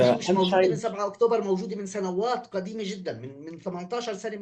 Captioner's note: speaking arabic